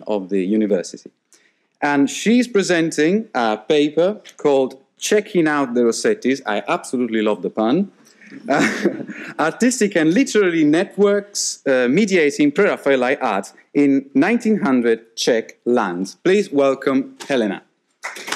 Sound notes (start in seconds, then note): 8.3 laughing; 18.0 audience applauding